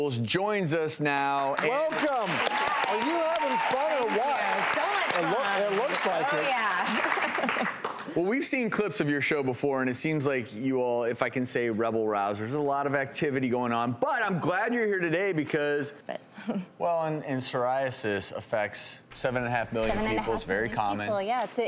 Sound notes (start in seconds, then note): 1.4 crowd cheering